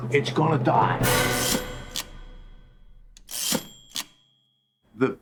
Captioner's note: typewriter dings twice